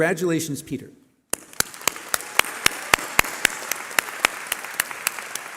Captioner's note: applause